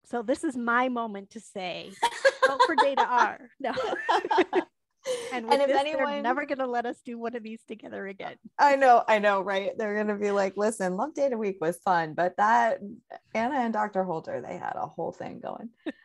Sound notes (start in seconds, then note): 3.6 both laugh